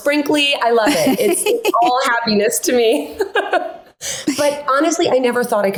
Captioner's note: chuckles